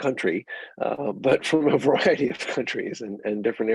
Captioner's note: chuckling